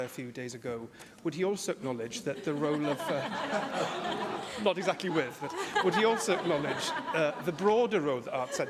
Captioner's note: laughter